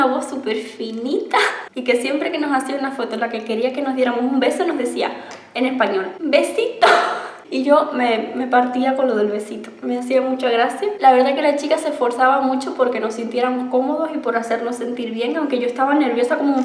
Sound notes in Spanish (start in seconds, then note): 5.8 en español